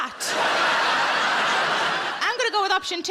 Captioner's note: audience laughs